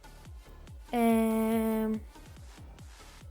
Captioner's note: thinking Noise